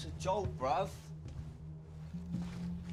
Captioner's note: none